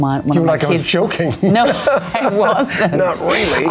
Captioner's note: laughs